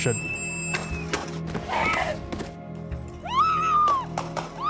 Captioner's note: screaming